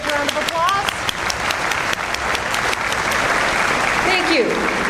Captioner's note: audience applauds